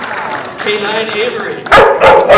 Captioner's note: dog barking